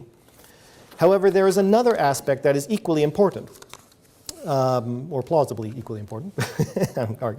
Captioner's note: chuckling